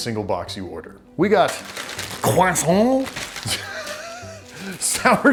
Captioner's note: laughs